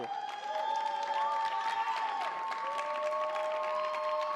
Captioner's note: audience cheers